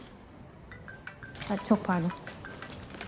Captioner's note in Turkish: cep telefonu çalar